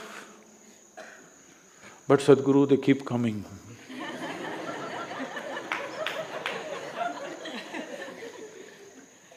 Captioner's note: laughter